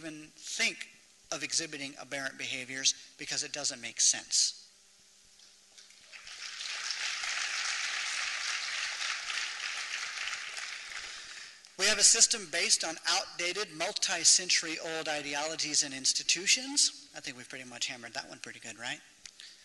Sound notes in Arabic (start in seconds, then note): 6.0 تصفيق